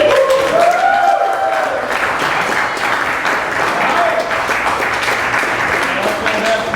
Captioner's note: applause